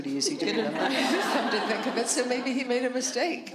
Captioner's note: laughter